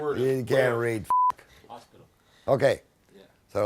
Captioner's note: beep